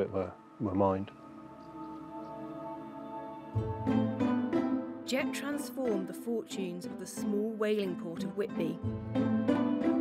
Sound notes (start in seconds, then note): 4.4 birds chirping; 4.4 jaunty orchestral music